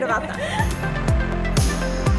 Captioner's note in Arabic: تضحك; موسيقى مبهجة